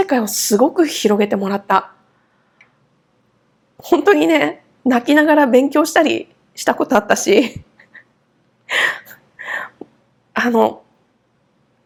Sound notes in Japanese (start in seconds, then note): 7.7 笑い